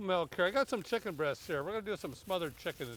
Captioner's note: none